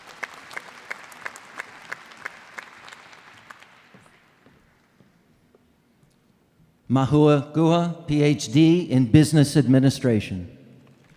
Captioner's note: applause